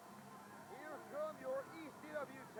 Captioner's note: crowd chatter